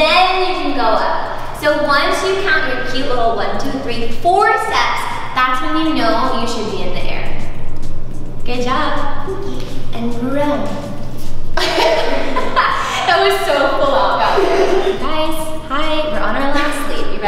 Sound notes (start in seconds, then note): 11.6 laughs